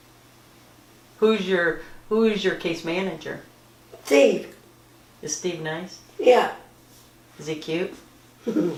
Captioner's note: laughter